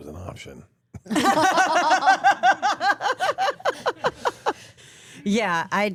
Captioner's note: laugh